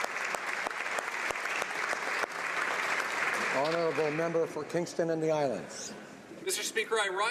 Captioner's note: applause